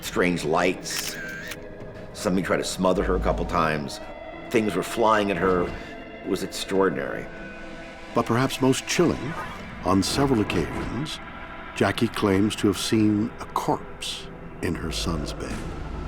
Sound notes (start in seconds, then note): 0.9 camera clicks